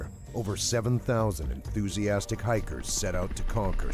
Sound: voiceover

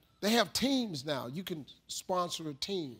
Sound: none

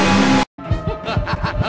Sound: maniacal laughter

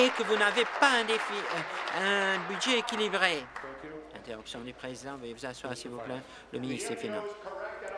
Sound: applause

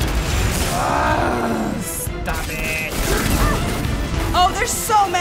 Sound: groans

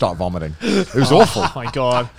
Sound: laughing

